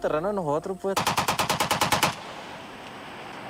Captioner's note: machine-gun fire